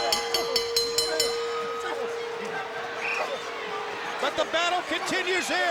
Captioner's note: bell dinging; crowd cheering; wrestlers grunting